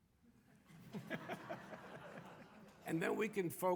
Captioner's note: audience laughing